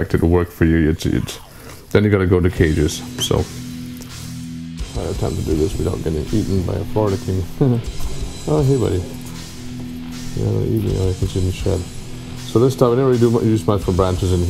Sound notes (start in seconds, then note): 7.4 laughs